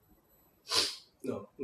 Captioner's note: sniffles